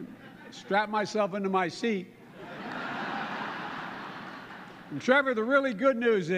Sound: laughter

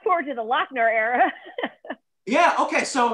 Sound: laughter

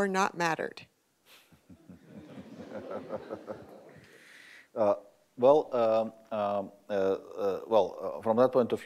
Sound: laughter

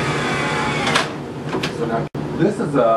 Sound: whirring

